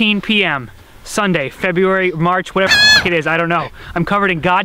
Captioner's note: noot